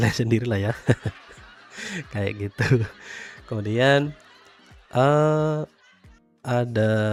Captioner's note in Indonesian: tertawa